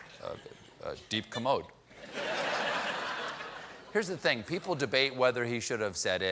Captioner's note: laughter